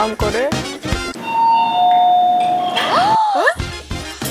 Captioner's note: ding dong